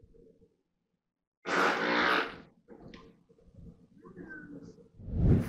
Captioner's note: person farting